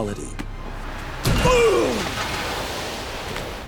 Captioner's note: groaning